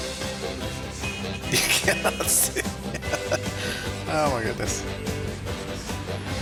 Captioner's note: laughing